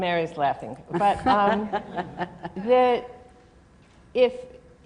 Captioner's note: laughter